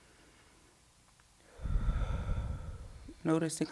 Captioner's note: deep breathing